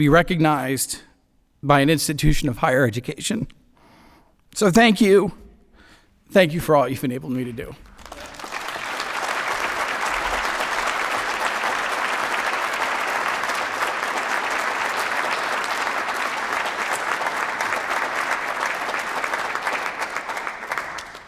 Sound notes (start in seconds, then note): 7.8 applause